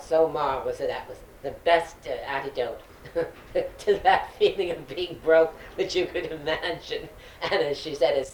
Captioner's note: laughs